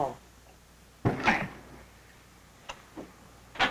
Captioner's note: grunting